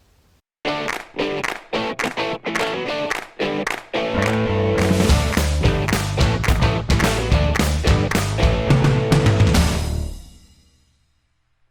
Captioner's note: claps